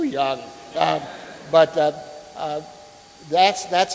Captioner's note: audience laughing